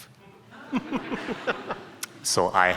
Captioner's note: audience laughing